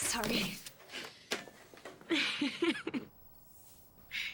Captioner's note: laughter